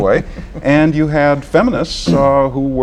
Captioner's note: laughter